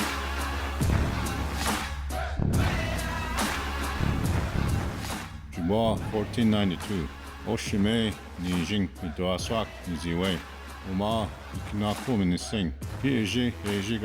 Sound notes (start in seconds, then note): 6.3 speaking Anishinaabe